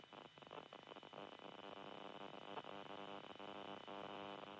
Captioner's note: static crackling